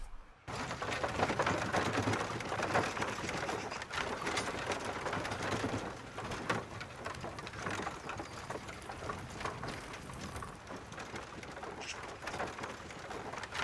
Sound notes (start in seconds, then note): 1.0 townsfolk bustling